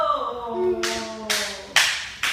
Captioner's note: clapping